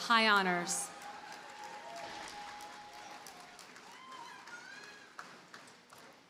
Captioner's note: audience cheers and applauds